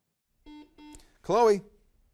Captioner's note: buzzer beeps